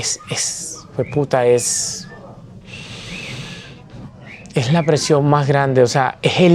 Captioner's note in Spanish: suspira